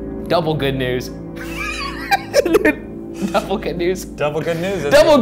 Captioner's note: laughs